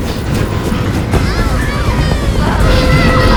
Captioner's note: children screaming